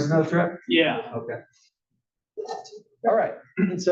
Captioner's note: cough